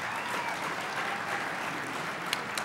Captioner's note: applause